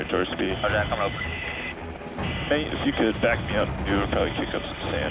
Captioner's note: man Over Radio